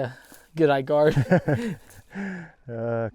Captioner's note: laughing